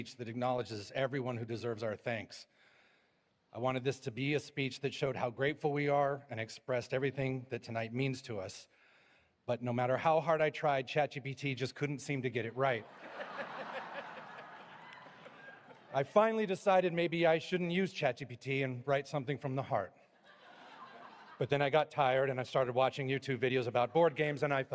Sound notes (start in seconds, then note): 12.8 laughter